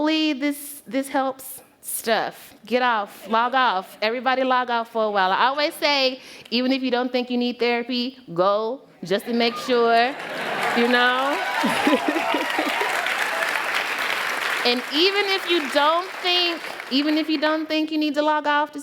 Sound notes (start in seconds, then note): 9.8 applause